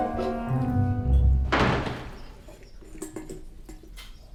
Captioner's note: la porte claque